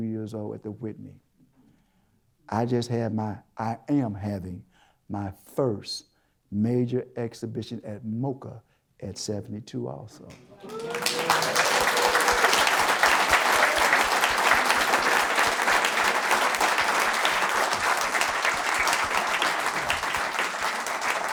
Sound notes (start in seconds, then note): 10.4 applause